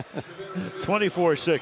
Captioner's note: chuckles